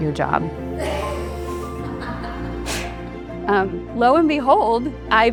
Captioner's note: laughs